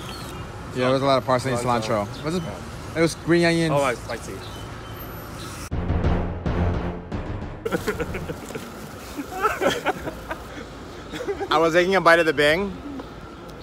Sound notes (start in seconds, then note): 7.6 laughter